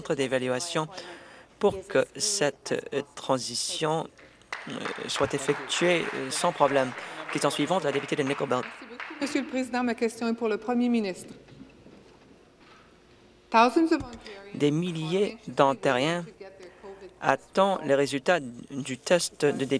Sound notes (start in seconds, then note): 11.4 speaking French